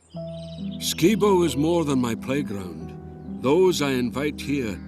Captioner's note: Voz en off